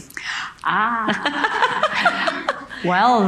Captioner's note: laughs; audience laughing